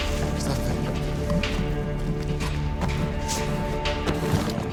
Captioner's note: smugglers speaking in Spanish